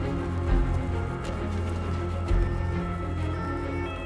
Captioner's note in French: sirènes à l'approche